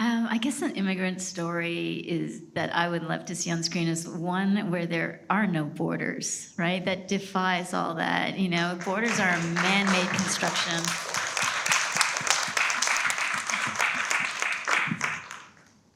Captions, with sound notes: - I guess an immigrant story is, that I would love to see on screen is one where there are no borders, right? That defies all that, you know. (everyone applauds) Borders are a manmade construction. (applause continues)